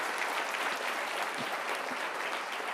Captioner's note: applause